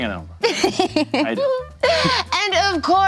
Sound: laughing

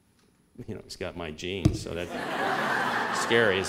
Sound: laughter

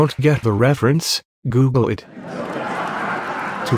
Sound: laughter

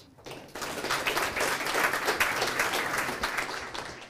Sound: applause

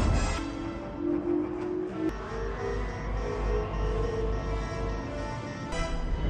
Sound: entering hyperspace sound effect

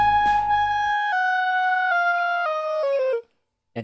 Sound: screams drift off in resignation

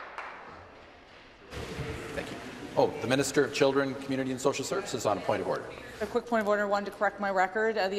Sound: applause

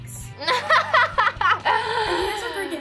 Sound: laughs

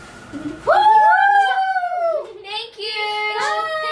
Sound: all cheers

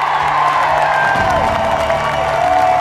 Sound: cheering

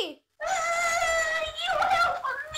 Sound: screams

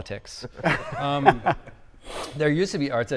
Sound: group laughing

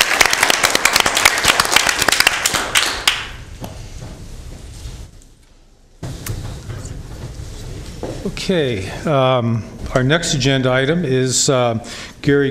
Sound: applause

